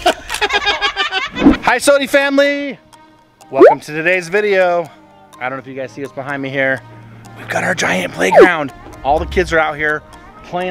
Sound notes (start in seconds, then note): 0.2 laughing; 7.5 whispering